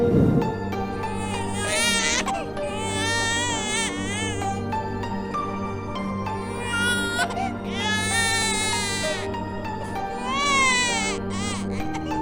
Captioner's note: baby crying